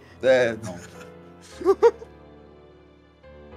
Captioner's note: laughs